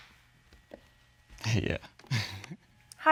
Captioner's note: chuckles